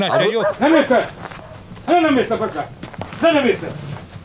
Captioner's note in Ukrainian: кричить собаці